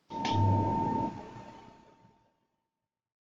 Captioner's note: computer sound